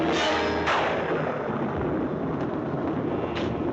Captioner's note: thunderclap